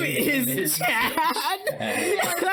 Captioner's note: laughing; laughs